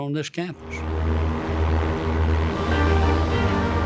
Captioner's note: plane engines humming; dramatic music